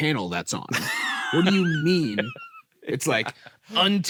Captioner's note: laughs